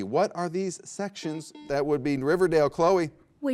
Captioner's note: buzzer beeps